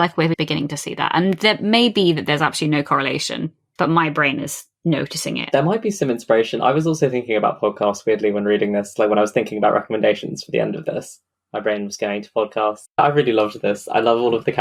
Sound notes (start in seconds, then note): none